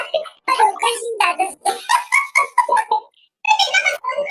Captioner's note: laughs